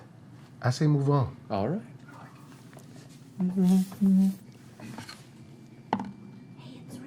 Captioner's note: hovering hum